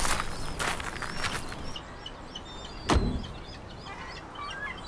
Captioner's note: seagulls crying